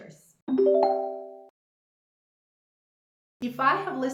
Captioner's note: graphic chimes